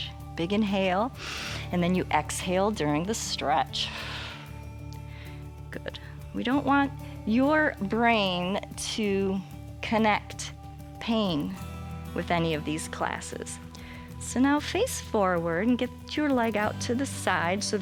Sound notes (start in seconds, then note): 1.1 inhales; 3.8 exhales